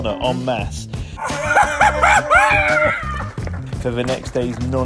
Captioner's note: cheering